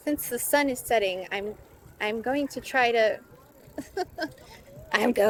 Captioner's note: laughs nervously